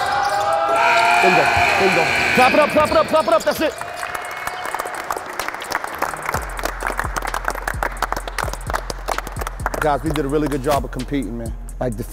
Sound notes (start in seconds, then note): 0.6 timer buzzes; 2.9 team members clapping